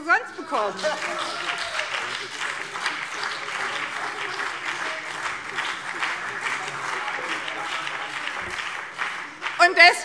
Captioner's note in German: Beifall BÜNDNIS 90/DIE GRÜNEN und vereinzelt CDU